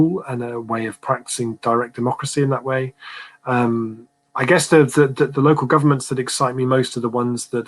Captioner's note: erm